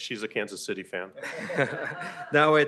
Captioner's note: laughter